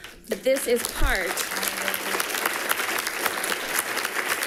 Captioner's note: people clapping